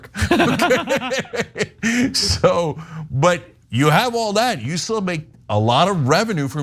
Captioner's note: laugh